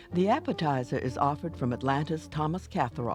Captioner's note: voiceover